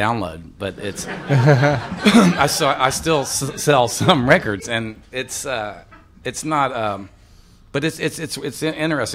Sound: laughter

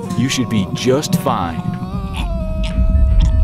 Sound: explodes

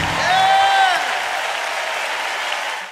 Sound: cheers and applause

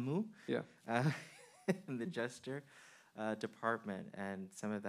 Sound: man chuckling

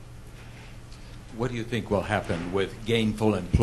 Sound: voiceover

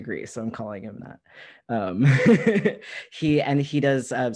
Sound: laughter

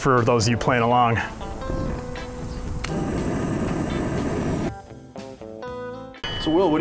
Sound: propane burner sound

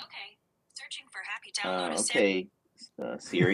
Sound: Siri in background

